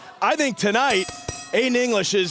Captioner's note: bell ringing